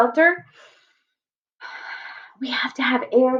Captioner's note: inhales